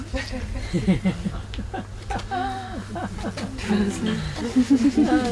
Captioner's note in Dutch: zacht gelach